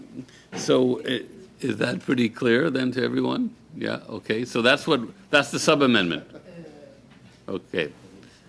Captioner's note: laughter